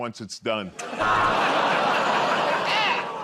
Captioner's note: buzzer